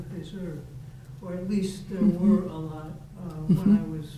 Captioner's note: faintly speaking